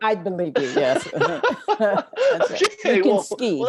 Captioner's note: laughs